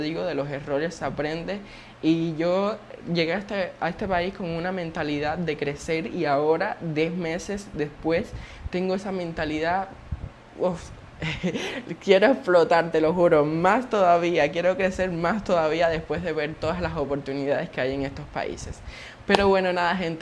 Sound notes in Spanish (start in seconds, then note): 11.2 risas